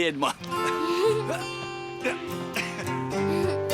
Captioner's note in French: grognement; rires